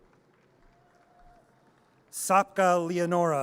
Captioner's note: audience cheers and applause